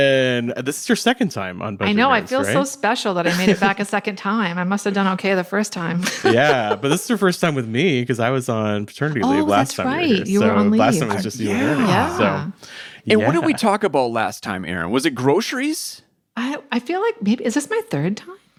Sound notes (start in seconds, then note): 6.0 laughs